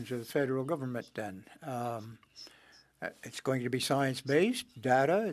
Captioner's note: speaking French